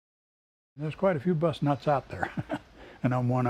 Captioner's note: laughs